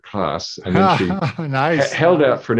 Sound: laughing

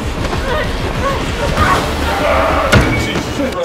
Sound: grunts in pain

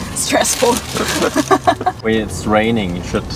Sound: both laughing

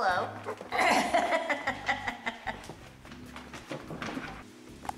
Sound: woman laughing

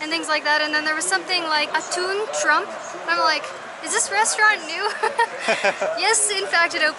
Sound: laughter

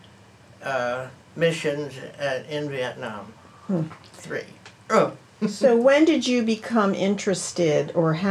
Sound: laughs

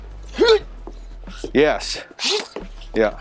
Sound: grunts; grunts

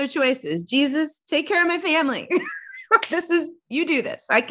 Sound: laughs

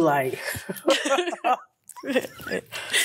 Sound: laughs

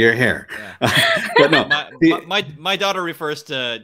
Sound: laughs

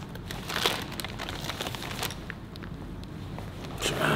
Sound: packet rustling

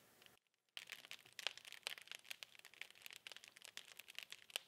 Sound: fire crackling

